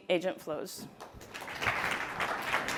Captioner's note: applause